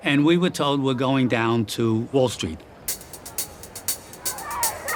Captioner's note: crowd Chanting